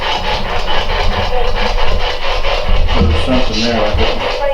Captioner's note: static